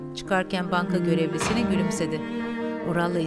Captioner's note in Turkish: Kapı kapanma sesi